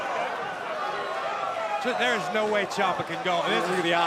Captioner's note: crowd chatter